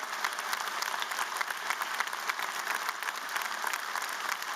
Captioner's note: applause